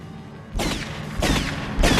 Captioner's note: bang; bang!